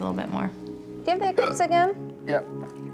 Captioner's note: hiccups